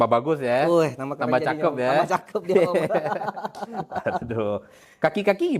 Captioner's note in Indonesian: tertawa